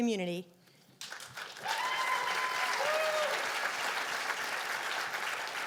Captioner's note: cheers and applause